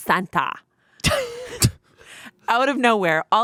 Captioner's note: laughing